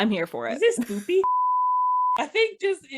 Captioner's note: screen beeping